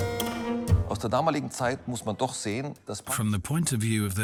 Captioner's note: speaks in foreign language